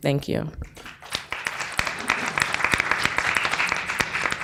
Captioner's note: people clapping